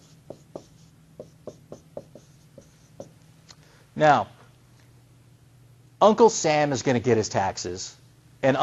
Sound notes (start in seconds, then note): 1.1 writing on whiteboard